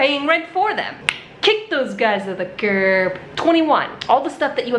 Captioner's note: snaps fingers